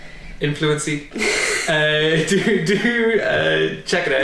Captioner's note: laughter